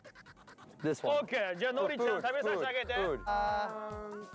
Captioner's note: speaking Japanese